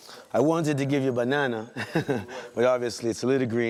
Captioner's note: chuckles